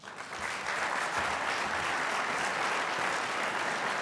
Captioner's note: applause